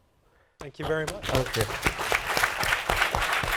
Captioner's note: applause